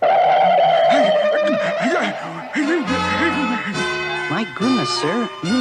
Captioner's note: Adam West Gasps